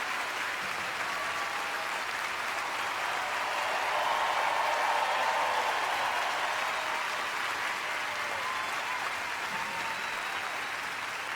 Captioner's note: applause